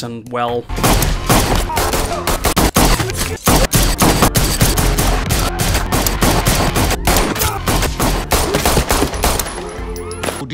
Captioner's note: gunshots